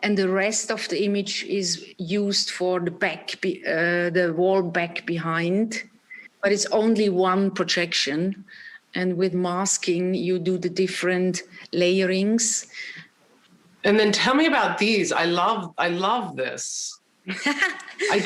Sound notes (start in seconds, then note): 15.6 chuckling